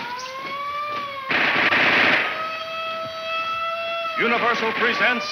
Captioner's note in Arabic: صافرات الإنذار تنطلق; اطلاق نار